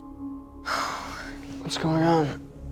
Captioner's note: Candace Re-Enactor sighs